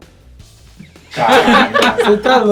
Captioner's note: risos